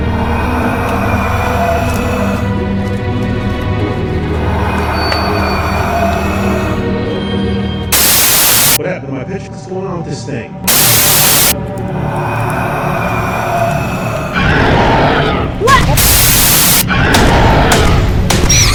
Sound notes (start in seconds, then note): 0.0 Goochers hissing; 7.9 static crackling; 10.6 static crackling; 10.7 creature hissing; 14.3 creature shrieks; 17.0 gun banging